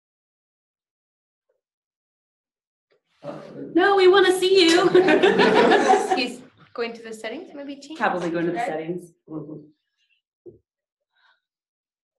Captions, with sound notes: No, we wanna see you! [laughing] - He's going to the settings maybe? - Probably going into the settings.